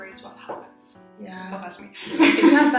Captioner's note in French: rire